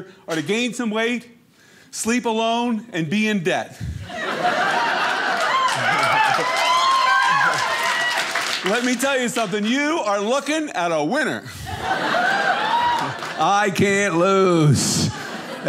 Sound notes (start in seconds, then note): 3.9 audience laughing; 11.5 audience laughing